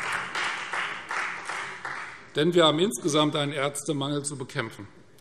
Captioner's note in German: Beifall Freie Demokraten